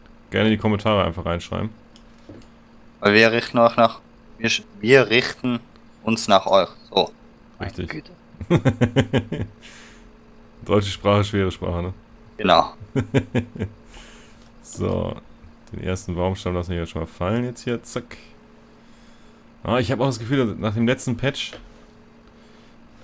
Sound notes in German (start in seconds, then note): 8.4 lachen; 12.8 lachen